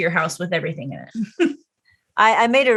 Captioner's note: chuckles